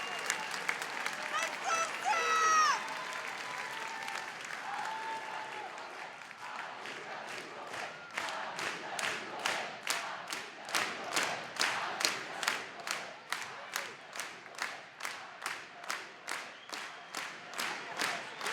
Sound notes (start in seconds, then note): 6.7 chanting